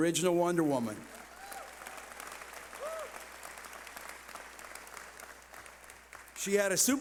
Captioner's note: cheering